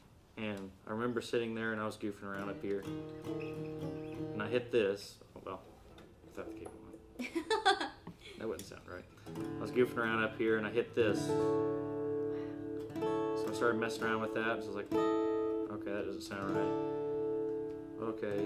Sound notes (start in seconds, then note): 2.2 strums guitar; 7.1 laughs; 11.3 strums guitar; 14.7 strums guitar